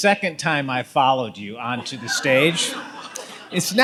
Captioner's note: audience laughs